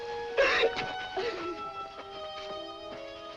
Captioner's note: sobbing